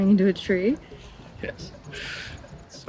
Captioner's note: laughs